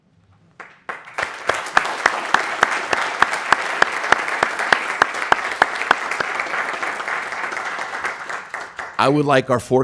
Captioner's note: applause